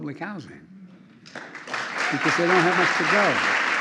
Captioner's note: applause